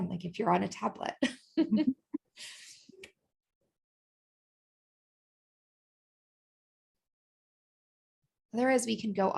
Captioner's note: laughter